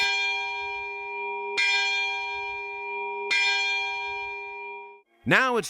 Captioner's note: sound of bell ringing